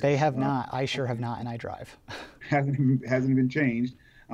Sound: laughs

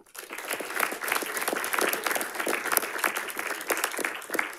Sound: audience applauding

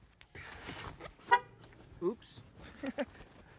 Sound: car horn honks; laughs

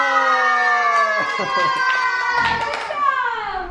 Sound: clapping

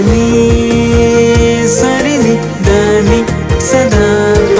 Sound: humming continues

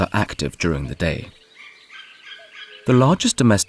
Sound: sounds of nature

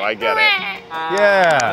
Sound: imitates baby crying

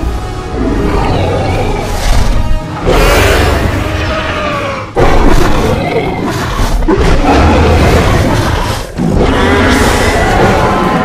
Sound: Indominus roars

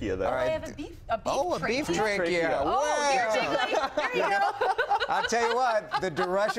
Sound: laughter

